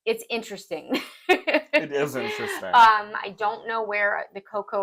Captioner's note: laugh